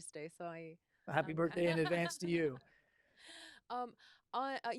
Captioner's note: laughter